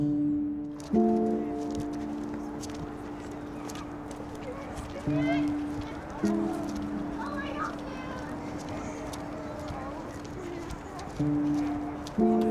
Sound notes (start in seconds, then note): 0.1 soft dramatic music; 6.0 children shouting; 8.9 soft dramatic music